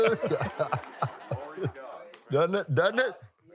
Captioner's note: laughs